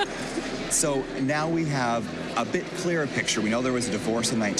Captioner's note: laughs